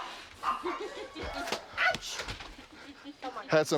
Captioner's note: resident laughing